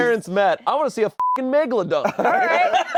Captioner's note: beep